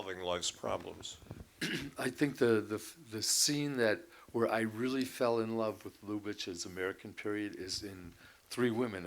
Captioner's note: clears throat